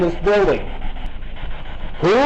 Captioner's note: static buzzing